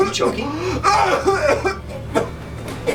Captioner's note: gagging